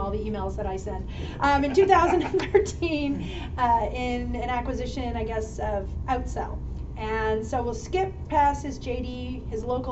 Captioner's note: chuckle